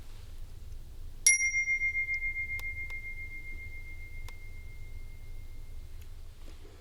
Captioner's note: bell ring